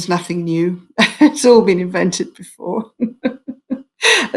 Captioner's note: chuckles